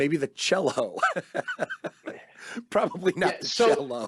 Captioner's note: laughing